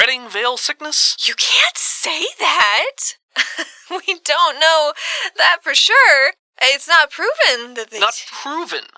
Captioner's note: laugh